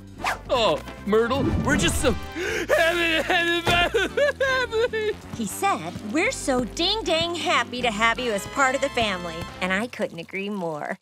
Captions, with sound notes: Uh, Myrtle, we're just so... [crying] What's happening? He said, "We're so ding dang happy to have you as part of the family." And I couldn't agree more.